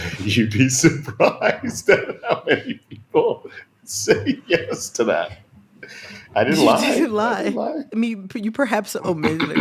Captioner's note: laughter